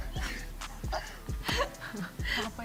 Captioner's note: giggles